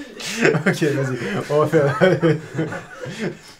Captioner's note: laughs